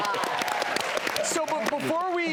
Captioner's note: audience applause